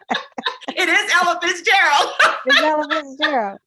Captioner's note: laughing